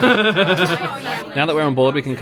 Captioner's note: laughs